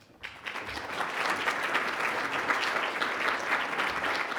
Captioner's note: audience applauding